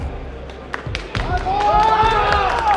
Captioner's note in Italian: applausi